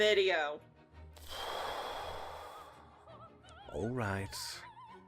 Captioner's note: deep exhale